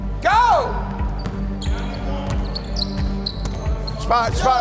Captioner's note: shoes squeak; ball thumps